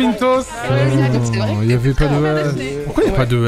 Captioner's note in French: marmonne